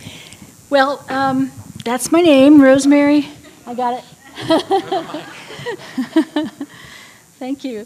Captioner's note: laughter